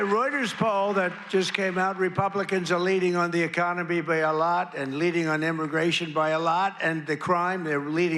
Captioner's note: applause